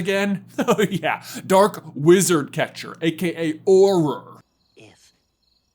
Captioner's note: chuckles